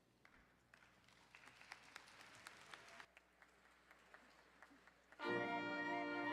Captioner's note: audience applauding